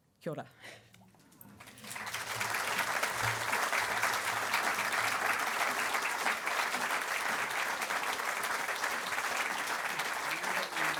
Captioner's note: applause